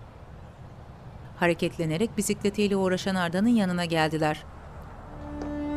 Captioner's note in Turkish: Kuş cıvıltısı sesi